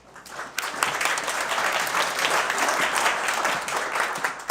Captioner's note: audience clapping